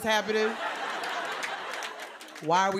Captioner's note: laughter